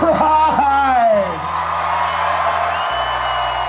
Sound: cheering

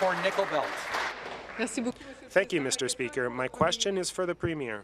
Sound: applause

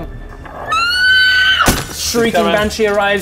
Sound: eeeeeeeeeeeeeeeeeeeeeeeee

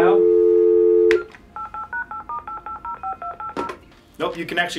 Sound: beep; number dialing

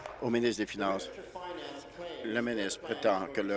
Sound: applause

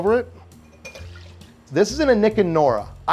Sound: whiskey splashing

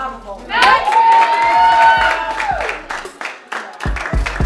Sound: team cheering

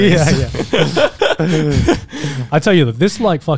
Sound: all laughing

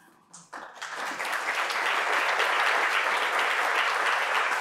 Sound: audience applauding

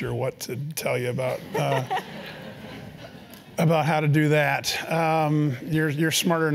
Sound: laugh

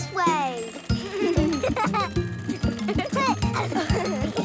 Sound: laughing

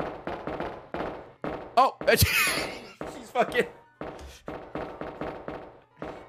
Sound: laughs

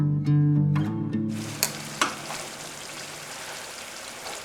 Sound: food frying

